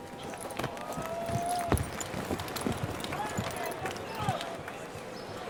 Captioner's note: cheers, applause